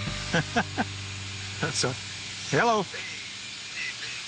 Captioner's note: laughs